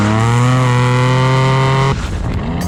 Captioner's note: engine revving loudly; sound barrier thundering